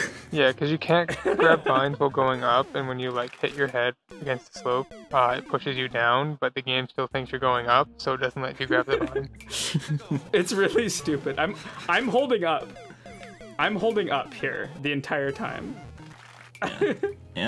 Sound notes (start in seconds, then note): 8.6 laughter; 16.6 laughs